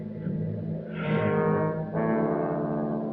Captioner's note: exhales